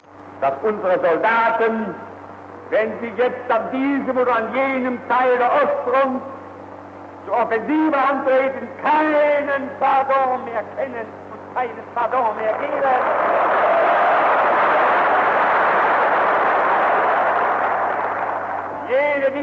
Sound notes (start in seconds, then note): 12.4 applause